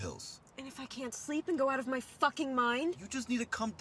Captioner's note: none